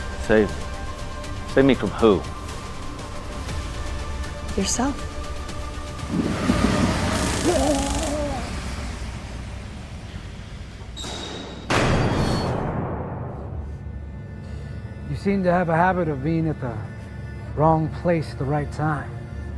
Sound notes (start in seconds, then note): 6.0 taser buzzing; 7.2 David groaning; 10.9 door squeaking and slamming; 12.8 pensive music